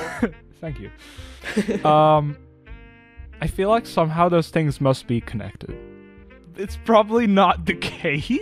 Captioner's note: laughs